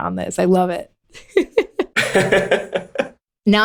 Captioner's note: laughter